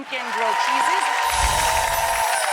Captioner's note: audience cheers; chimes ring